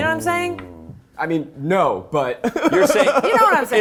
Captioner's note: laughs